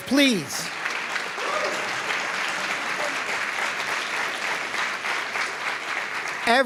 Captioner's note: applause